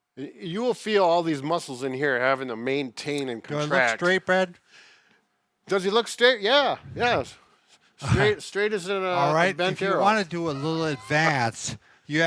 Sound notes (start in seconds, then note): 8.0 laughs